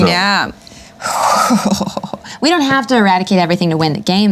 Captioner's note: laughs